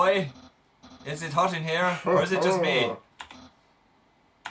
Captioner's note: makes suggestive noise